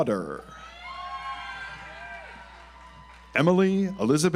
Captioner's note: audience applauds